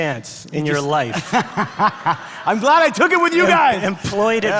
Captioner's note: laughs